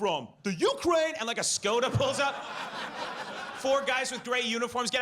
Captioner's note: audience laughs